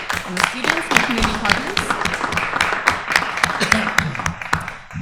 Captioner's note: applause